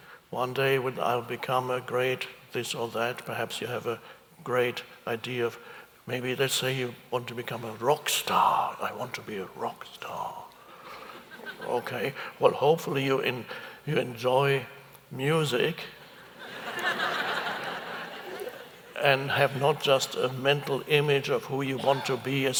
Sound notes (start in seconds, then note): 10.9 audience chuckles; 16.0 audience laughs